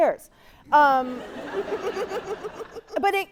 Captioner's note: audience laughing